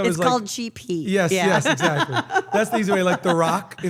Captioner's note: laugh